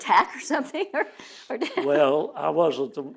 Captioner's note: laughs